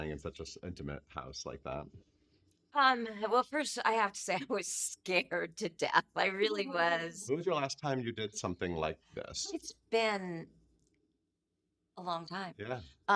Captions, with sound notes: in such a intimate house like that? - Well, first, I have to say, (laughing) I was scared to death. I really was. - Aw. - When was your last time you did something like this? - It's been a long time.